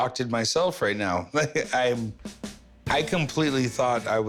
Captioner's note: laughs